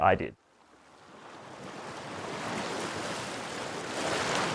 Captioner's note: waves crashing